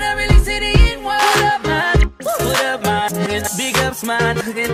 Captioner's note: woo